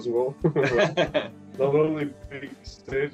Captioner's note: Смех